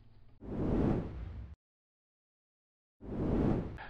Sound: air rushing

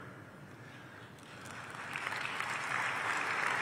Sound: applause

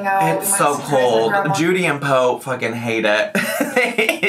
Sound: laughs

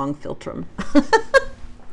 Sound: laughs

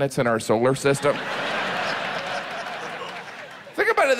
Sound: audience laughs

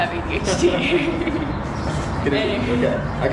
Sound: laughing

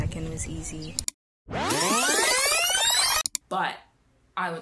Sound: rewind sound

